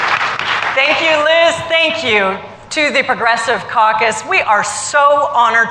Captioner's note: applause